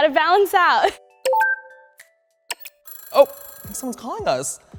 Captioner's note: electronic clicking